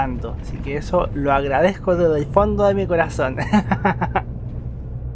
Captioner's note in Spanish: risas